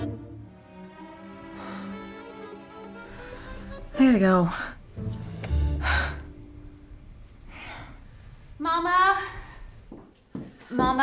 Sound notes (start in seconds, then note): 1.6 sighs; 5.7 sighs; 9.8 footsteps